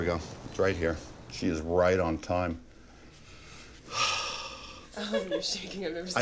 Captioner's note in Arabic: تنهد